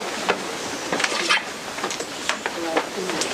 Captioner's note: background chatter